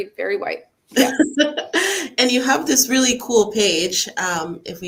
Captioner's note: laughs